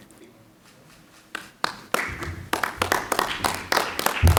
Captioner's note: clapping